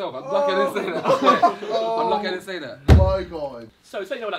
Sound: all laughing

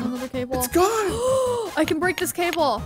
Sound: gasping

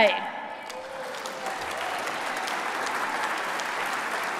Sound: applause

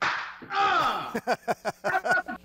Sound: clapping; laughing

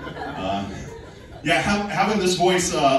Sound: laughing

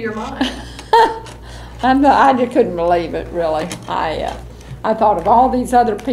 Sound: laughs

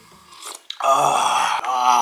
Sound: drooling

